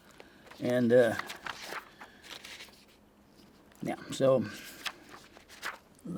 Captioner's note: paper crinkling